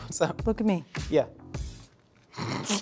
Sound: laughs

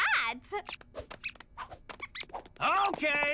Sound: squeaking

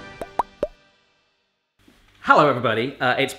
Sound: bubble popping

